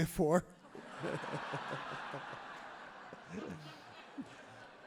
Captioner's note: everyone laughs happily